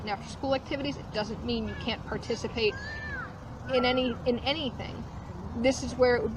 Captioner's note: kid shouting in background